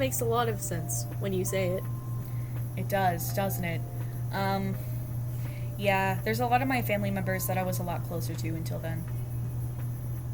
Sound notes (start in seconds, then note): none